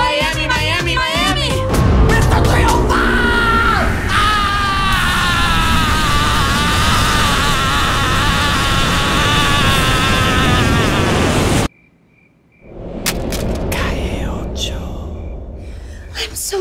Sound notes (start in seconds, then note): 4.5 screams; 14.2 whispers